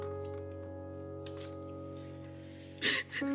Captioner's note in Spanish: Sollozos